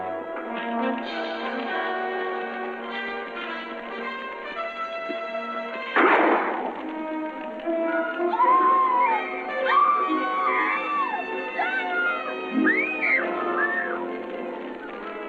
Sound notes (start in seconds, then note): 5.9 gunshot; 7.9 woman screaming; 12.6 child screaming